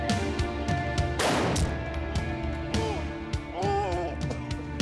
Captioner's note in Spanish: quejidos de pedro